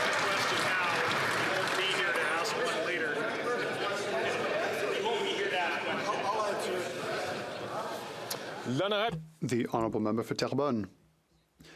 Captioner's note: some Applause